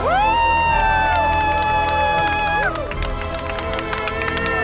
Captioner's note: crew cheering